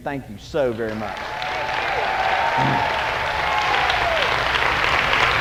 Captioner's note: congregation applauding